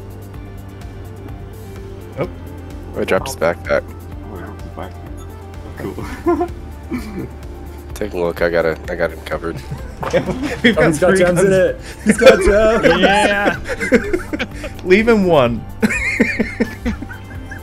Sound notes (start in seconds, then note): 5.8 laugh; 11.9 everyone laughs; 16.8 laugh